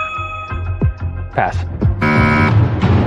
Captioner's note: buzzer sounds